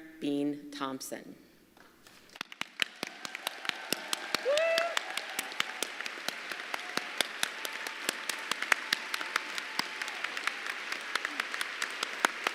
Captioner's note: applause